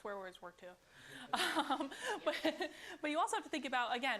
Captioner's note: laughter